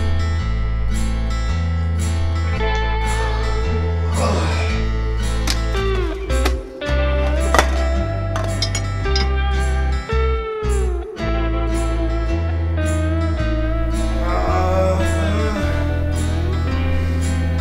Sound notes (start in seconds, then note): 0.3 dreary country music; 4.6 groans; 13.8 groans